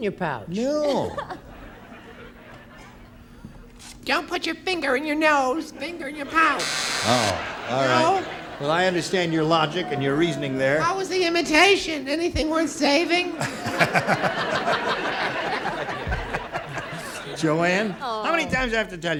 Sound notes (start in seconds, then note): 3.2 imitates female voice; 13.2 laughter